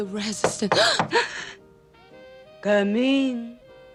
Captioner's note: knock on door; both gasp